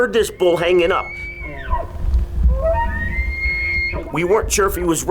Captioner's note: elk crying